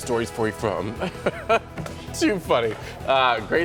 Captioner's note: laughter